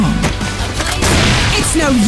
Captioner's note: shot